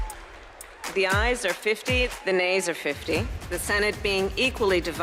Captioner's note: cheers and applause